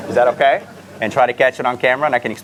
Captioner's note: audience laughter